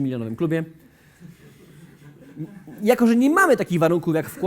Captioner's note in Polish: śmiech